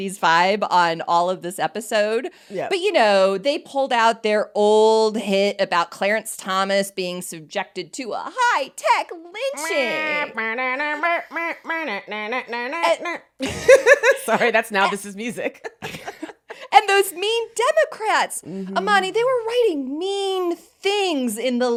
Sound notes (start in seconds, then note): 9.9 imitating lively music; 13.7 both laughing